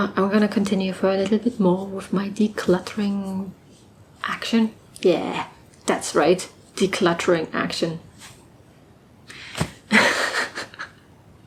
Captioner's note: laughs